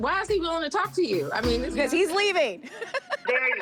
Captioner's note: laughing